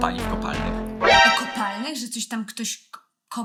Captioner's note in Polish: brzdęk